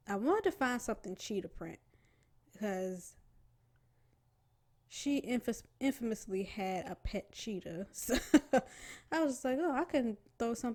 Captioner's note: laughs